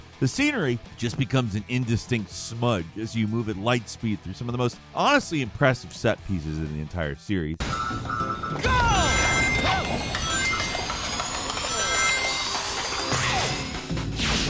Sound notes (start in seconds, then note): 9.7 rings dinging